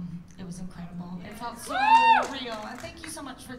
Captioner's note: cheers